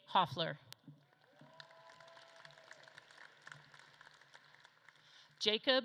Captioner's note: audience claps and cheers